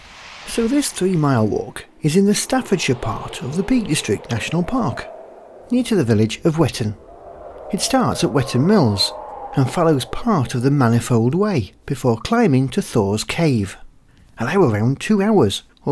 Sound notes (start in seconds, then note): none